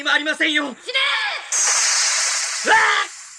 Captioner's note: SFX: spell sounds